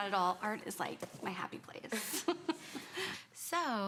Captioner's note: laughing